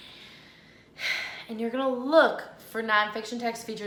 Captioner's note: sighs